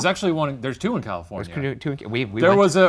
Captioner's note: laughs